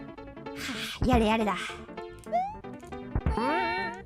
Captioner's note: sigh